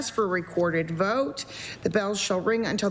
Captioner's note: none